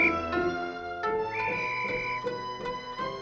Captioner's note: whistle blowing; whistling continues